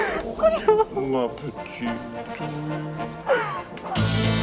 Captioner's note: Jilly sobs; John speaks French; dramatic music; hooves clop